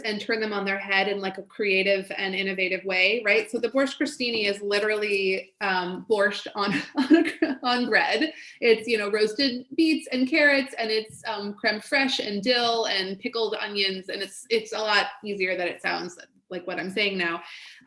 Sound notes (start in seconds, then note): 6.8 laughs